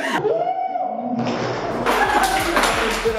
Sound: bang

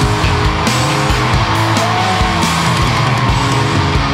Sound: crowd cheering

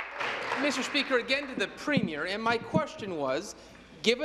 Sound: applause

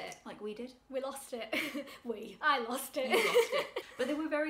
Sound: laughs

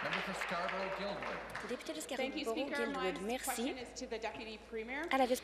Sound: applause

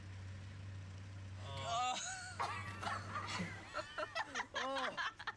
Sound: girls laughs loudly

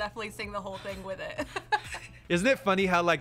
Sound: laughs

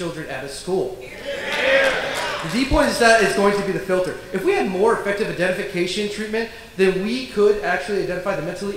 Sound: applause

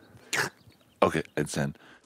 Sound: slurping

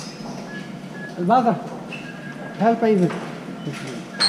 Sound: man speaking in Dutch

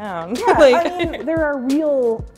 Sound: laughs

